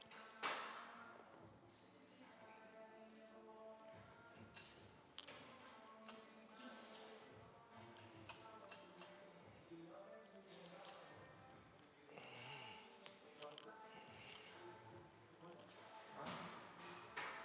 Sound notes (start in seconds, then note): none